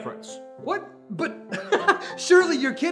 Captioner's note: laughs